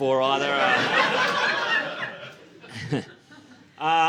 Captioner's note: laughter